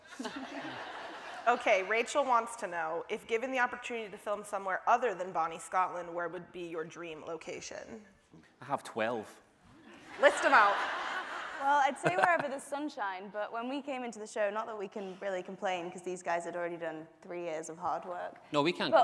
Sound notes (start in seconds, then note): 0.1 audience laughing; 10.0 audience laughing